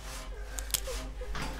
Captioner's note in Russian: еще больше скрипов веревки